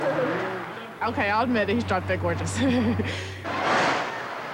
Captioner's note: laughs